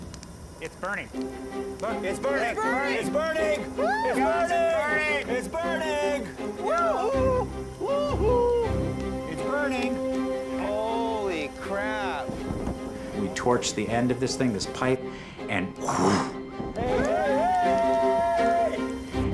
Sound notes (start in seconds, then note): 15.4 whooshes